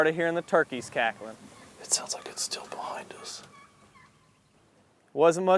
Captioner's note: whispering